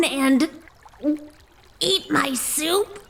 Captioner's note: gulp